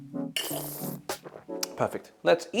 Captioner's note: slurps